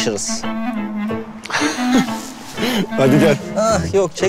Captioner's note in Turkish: Gülme sesi